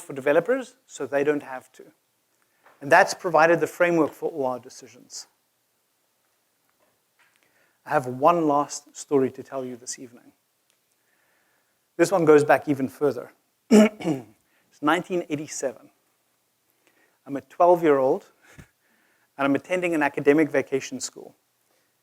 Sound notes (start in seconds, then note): 13.7 cough